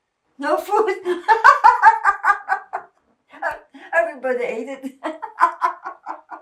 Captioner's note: laughing